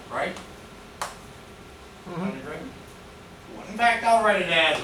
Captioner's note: murmurs agreement